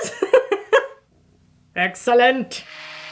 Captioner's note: laughing